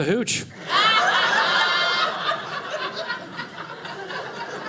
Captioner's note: audience laughing